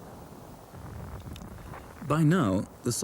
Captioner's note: shell booms